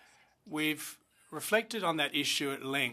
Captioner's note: speaking French